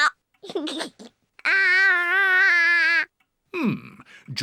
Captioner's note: giggles